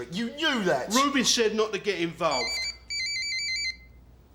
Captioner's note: phone rings